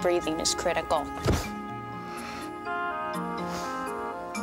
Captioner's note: all exhale sharply